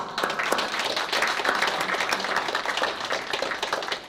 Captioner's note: applause